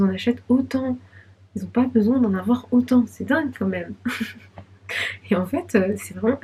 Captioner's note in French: rires